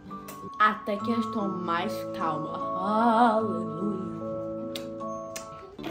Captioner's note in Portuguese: som de beijos